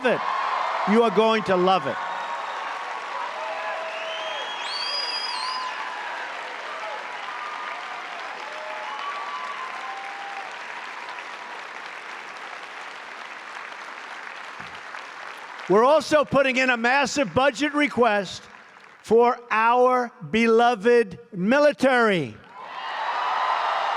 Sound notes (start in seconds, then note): 8.7 applause